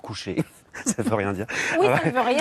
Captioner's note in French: rires